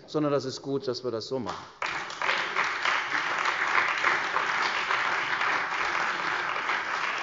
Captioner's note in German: Beifall bei der CDU und dem BÜNDNIS 90/DIE GRÜNEN